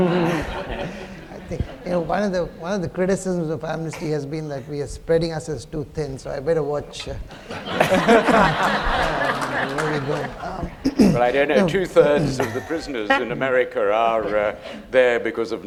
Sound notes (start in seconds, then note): 7.3 laughter